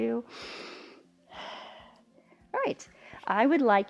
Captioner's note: inhales and exhales